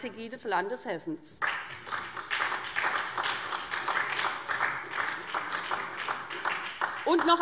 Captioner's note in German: Beifall SPD